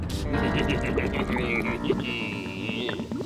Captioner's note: chuckling